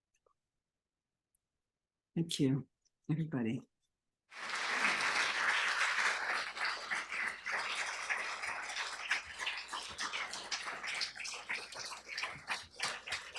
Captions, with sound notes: Thank you, everybody. [APPLAUSE]